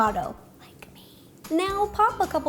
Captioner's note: whispers